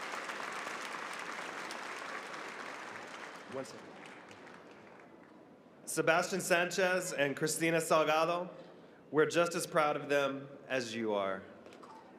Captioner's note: applause